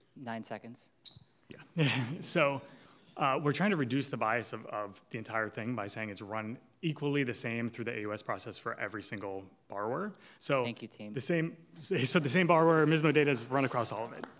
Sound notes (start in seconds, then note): 1.7 laughing; 11.8 audience laughing